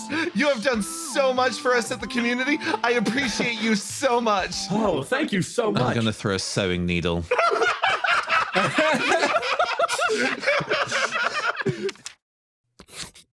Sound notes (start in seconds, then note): 7.3 laughs